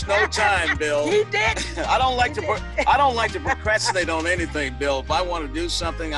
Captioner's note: laughs